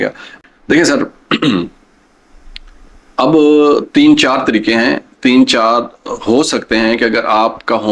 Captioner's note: clears throat